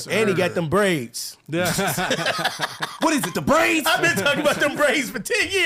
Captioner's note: laughing